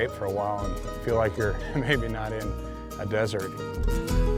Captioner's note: laughs